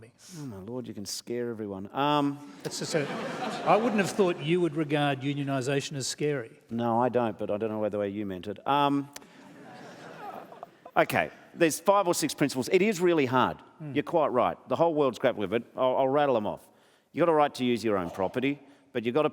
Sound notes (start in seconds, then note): 2.5 laughter; 9.2 scattered laughter